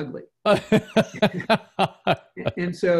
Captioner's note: laughs